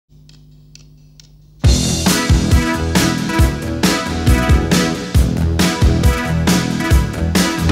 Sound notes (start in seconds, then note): 0.1 metronome clicking; 1.6 upbeat rock music